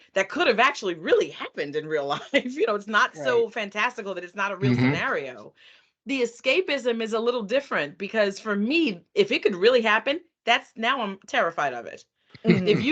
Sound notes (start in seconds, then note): 3.2 laughing; 12.4 chuckling